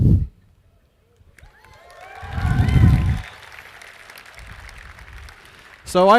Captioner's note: audience cheers and applauds